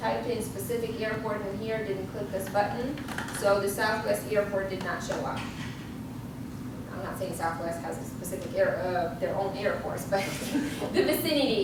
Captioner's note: laughs